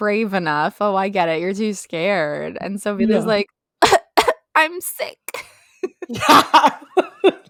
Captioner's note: cough cough